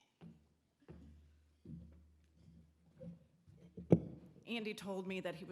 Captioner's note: footsteps clomping